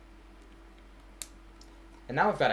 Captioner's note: click